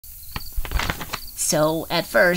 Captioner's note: paper rustling, bugs chirping